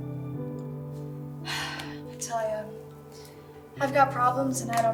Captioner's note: sighs